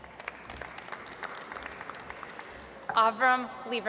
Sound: audience applauds

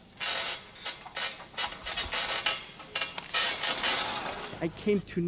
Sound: metal screeching

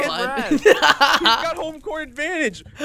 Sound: laughing

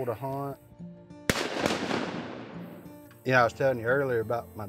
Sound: gun shots

